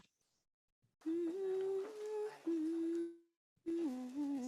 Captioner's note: woman humming